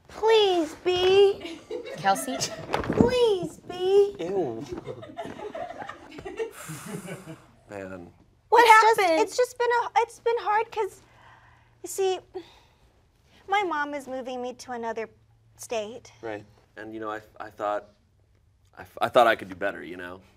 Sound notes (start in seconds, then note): 6.5 sighing